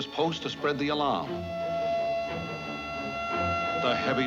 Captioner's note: siren wailing